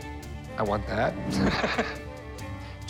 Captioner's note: laughs